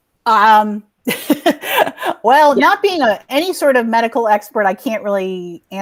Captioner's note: laughs